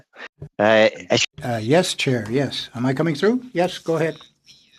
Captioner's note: speaking French